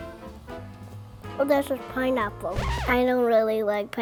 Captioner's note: needle scratches